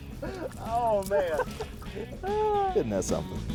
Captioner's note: laughing